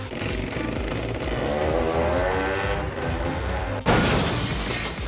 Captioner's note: 2-Stroke sounds